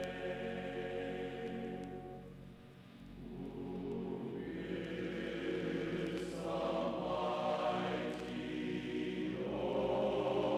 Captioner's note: chanting